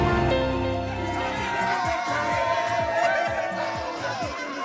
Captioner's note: crowd celebrating